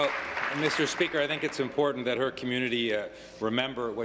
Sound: applause

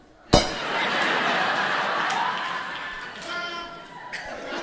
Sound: cymbal clanks; audience laughing

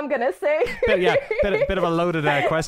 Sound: laughter

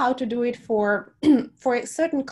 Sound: clears throat

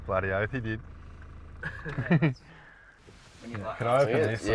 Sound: passenger laughs

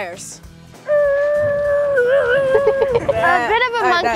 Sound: imitating tires spinning

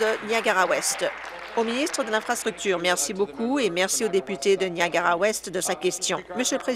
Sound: applause

